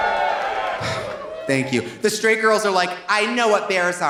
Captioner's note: audience applauding; audience cheering; sighs